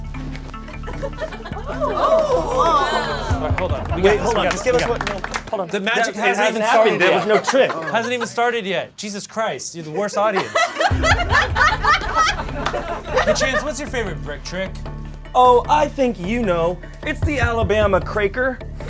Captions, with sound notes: (audience cheers) - All right, hold on. - Hold on, just give us one minute. - Hold on. - The magic hasn't even happened yet. - There was no trick. - Hasn't even started yet. Jesus Christ, you're the worst audience. (audience laughs) Hey Chanse, what's your favorite brick trick? - Oh, I think you know, it's the Alabama Craker.